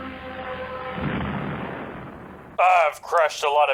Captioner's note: crash